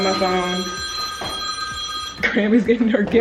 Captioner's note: telephone ringing